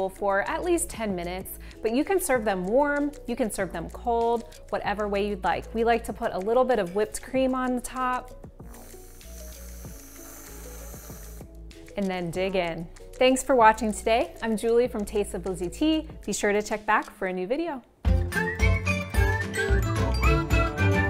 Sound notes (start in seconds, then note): 8.6 can sprays; 18.0 cheerful music